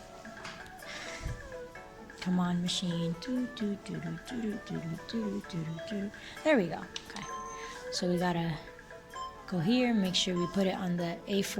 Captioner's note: humming